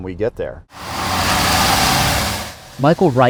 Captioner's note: engine roaring